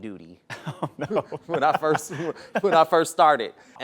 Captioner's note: laughter